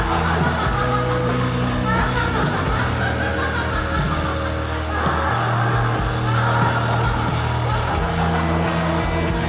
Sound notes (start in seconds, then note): 2.0 insane laughter continues